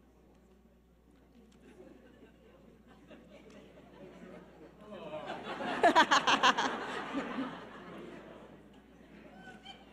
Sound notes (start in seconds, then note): 4.9 audience laughing